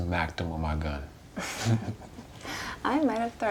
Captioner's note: both laughing